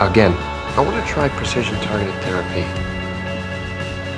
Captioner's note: voiceover